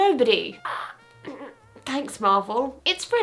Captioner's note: grunts